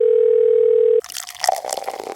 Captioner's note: phone ringing; liquid pouring